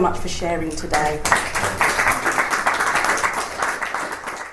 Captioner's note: audience applauds